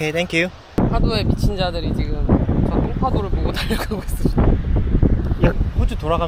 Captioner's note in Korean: 강한 바람소리